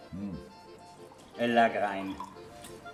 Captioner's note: speaks dialect